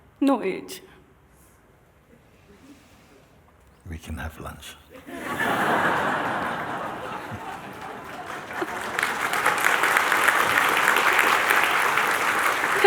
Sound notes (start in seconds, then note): 4.9 laughter; 9.1 applause